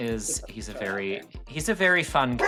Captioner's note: dog barking; mumbling